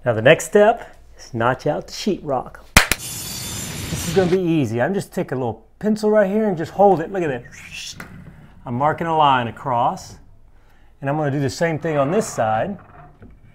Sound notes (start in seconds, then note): 2.9 claps; 7.7 whistles